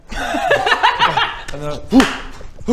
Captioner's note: laughs